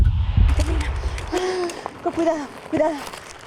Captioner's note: conversing in spanish